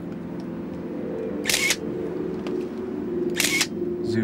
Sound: camera shutter clicks

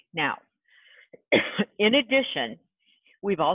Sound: cough

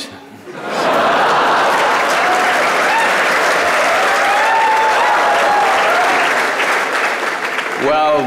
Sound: laughter/Cheers/Applause

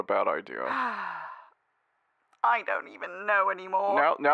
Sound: sighs

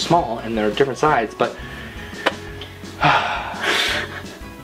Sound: sighs

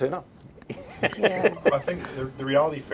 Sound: laughing

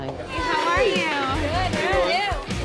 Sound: loud chatter

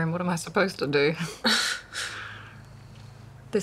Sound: both chuckle

